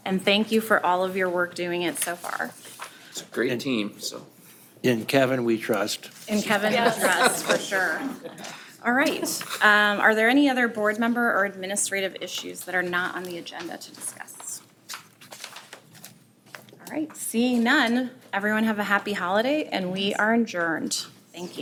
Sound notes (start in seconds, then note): 6.4 group laughing